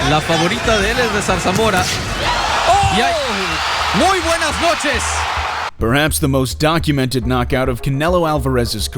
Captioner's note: crowd cheering